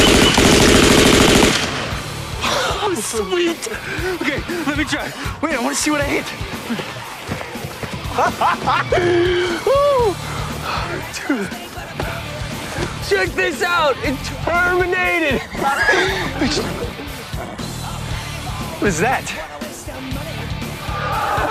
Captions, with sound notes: [squawking] [laughing] Sweet! Okay, let me try. Wait, I want to see what I hit. [laughing] 'Whoo!' Dude, check this out! Terminated! [loud wheezing] What is that?